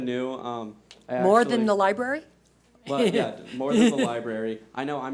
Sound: laughs

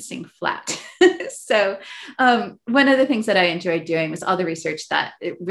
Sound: laughs

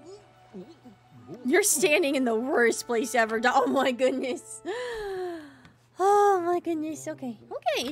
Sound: deep Breath

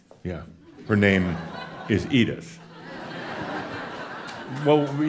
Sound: laughter

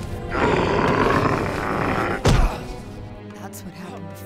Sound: growling; grunting

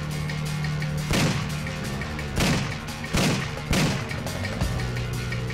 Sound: intense music; bullets popping

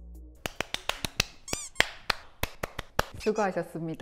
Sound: clap clap clap clap clap

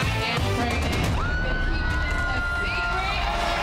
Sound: crowd shrieking and applauding

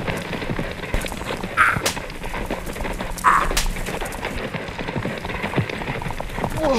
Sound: horse hooves clopping; slapping

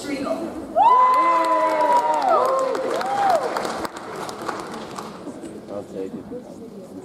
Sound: audience cheers; audience applauds

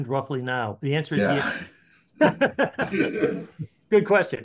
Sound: laughs

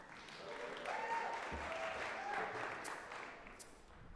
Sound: applause

